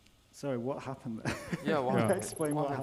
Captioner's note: laughs